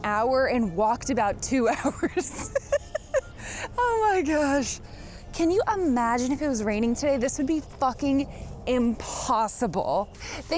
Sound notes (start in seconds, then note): 1.8 laughs